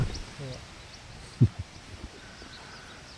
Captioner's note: laughter